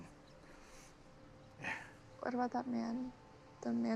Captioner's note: grunts